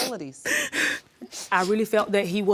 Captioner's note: sobbing